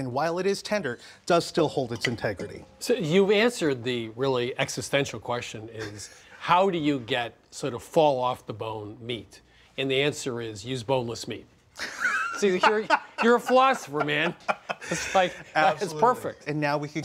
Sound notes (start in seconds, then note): 11.8 laughing